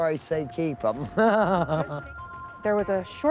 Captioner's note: laughs